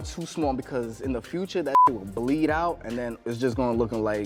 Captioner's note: beep